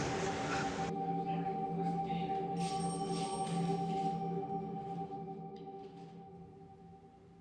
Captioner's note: officers chattering; phone ringing